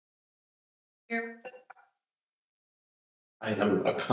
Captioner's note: audio cutting out